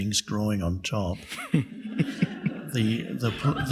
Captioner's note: audience laughing